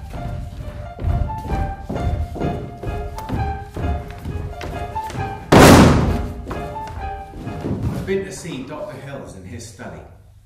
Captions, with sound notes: (chairs slam) (music stops abruptly) I’ve been to see Dr Hills in his study.